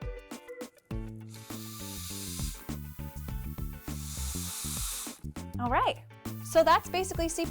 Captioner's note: exhaling